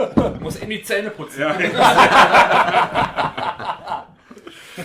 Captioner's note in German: lachen